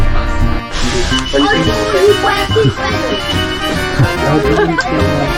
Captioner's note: analog stop bell